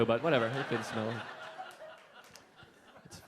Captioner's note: audience laughing